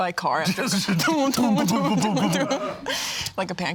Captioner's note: vocalizing